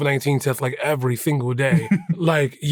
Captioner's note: chuckles